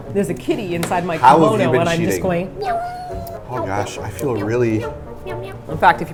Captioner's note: cat meowing